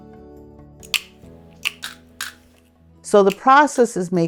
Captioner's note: loud cracking sound